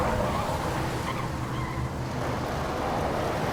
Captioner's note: tires squeal